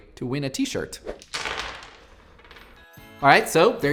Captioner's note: clatter